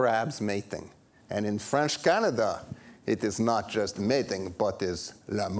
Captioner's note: French accent